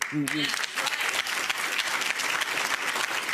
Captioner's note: applauding